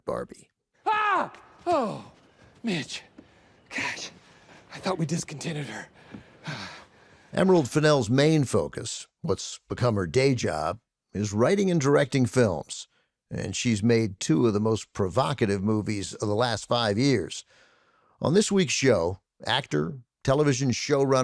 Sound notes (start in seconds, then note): 0.8 screams; 5.9 panting